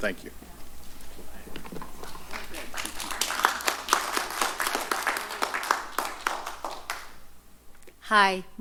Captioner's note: applause